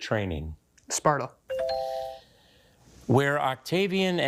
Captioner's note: bell dings